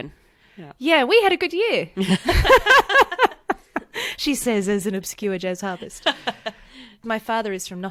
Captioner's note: laughs